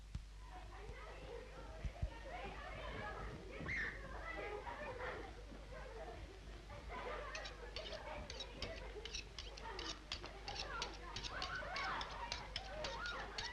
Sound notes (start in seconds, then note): 0.1 children chatter, laugh and yell; 8.9 knife scrapes rhythmically